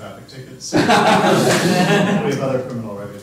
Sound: laughter

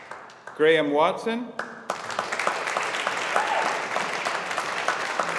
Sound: audience applauding

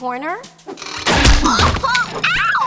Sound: yelling

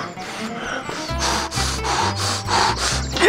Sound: breathing

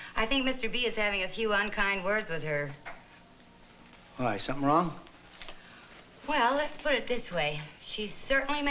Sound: none

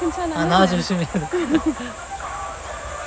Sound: Crocs groan

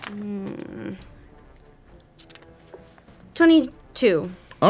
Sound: groaning

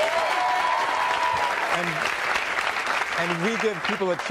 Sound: audience cheering and applauding

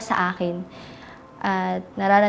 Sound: deep breath

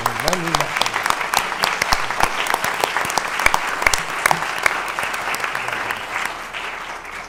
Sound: applause

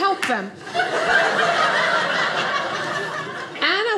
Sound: audience laughing

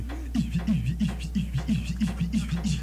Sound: beatboxing

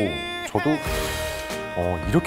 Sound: inhale💨

